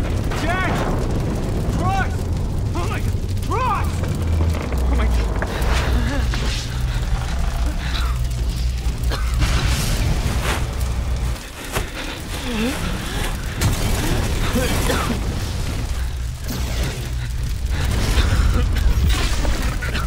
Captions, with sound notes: Jack??? Cross??? Oh my... CROSS! [structural groaning/weakening] [fire roars louder] [more explosions] [frantic breathing] [Madhouse chokes/coughs]